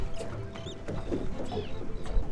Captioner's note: birds chirping